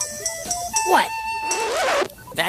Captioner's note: record stopping sound